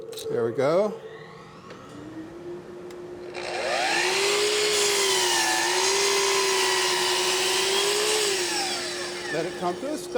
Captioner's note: power tool humming